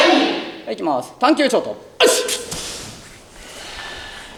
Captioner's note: inhale short, breath long